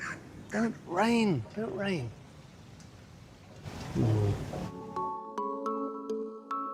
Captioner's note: groan